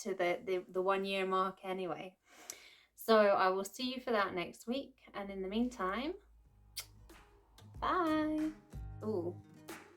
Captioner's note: kiss